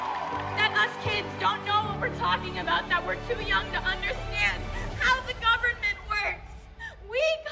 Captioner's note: cheering and applauding